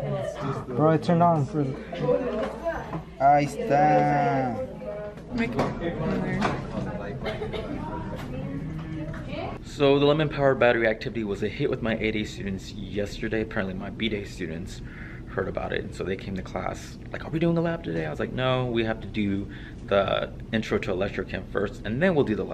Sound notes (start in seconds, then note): 5.5 class discussion